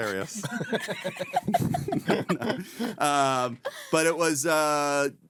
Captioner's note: laughing